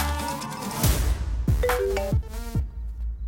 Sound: phone rings

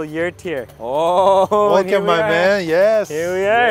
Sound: laughing

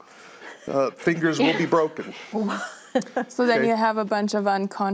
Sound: others laugh

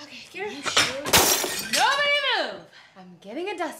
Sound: shattering

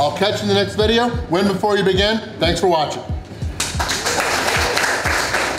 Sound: crowd clapping

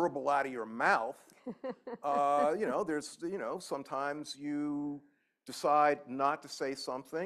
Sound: laughter

